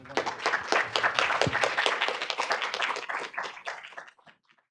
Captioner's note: audience applauding